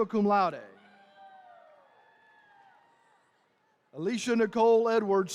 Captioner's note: attendees cheering